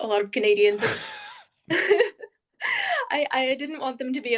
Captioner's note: all laughing